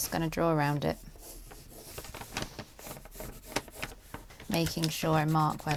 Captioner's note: pencil scratching